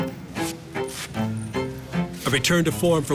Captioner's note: playful instrumental music; velcro on gloves crackling